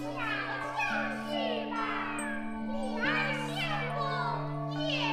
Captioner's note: speaking foreign language